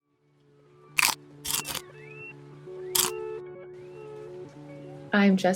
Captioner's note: biting noises crunch